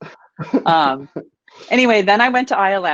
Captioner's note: laughing